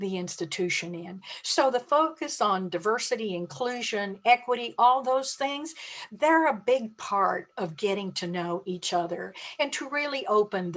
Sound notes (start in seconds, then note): none